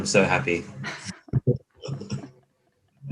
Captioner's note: laughing